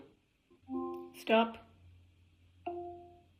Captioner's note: device chimes